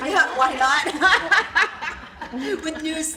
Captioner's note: laughter